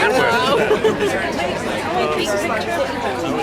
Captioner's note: woman giggling